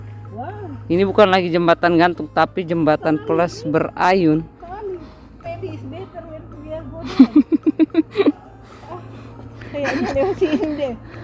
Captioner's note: laughs